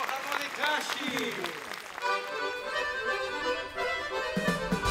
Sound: speaking in foreign language

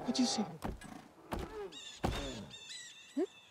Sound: birds screeching

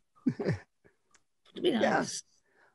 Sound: chuckles

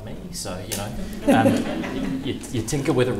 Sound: audience laughing

